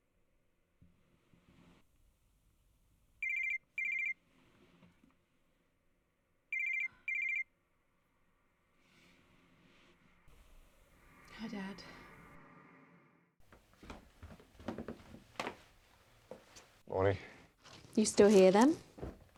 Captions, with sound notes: (phone rings) Hi, Dad. - Morning. - You still here then?